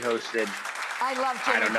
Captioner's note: audience applauding